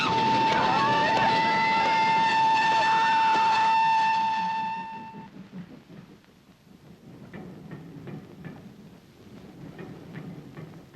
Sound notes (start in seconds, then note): 0.4 Gwen screaming; 0.7 father shouting; 6.7 train chugging in distance